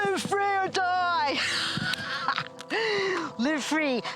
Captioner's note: laughs